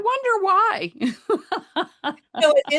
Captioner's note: laughs